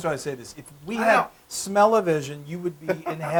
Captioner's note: laugh